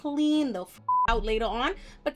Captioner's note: beep